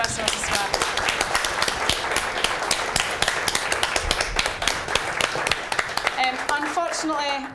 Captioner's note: applause